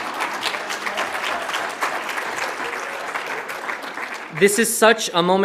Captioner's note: all laugh; audience applauds